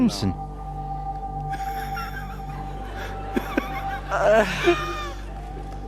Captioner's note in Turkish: Gülüyorlar